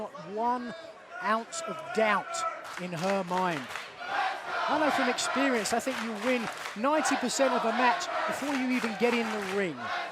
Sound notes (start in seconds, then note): 4.3 fans chanting